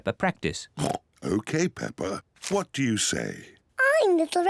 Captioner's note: oinks